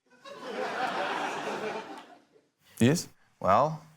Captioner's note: laughter